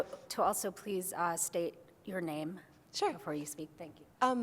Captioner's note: voiceover